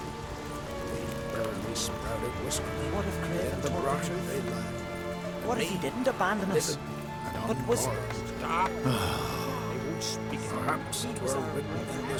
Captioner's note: villagers chattering